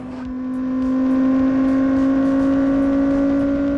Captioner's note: engine revving